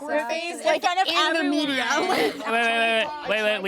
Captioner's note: group chattering indistinctly